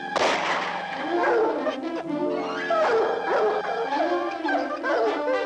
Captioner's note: dogs barking